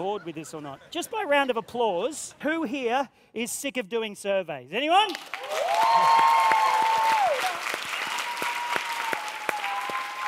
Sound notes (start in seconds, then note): 5.1 cheers and applause